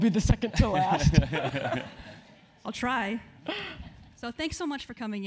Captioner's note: laugh